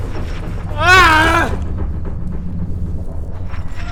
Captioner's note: screaming